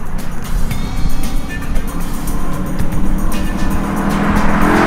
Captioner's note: engine roars